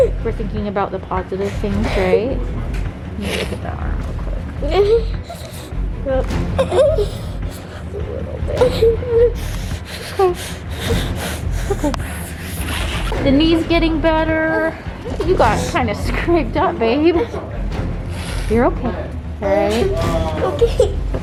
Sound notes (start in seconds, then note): 4.8 high intensity music; 6.5 sobbing